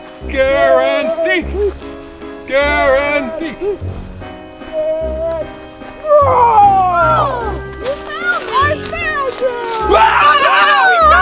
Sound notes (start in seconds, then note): 6.0 Marshall roaring; 6.0 Zuma screaming; 9.0 narrator screaming; 9.5 Zuma screaming